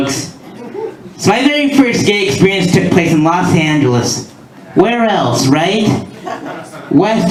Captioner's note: laughter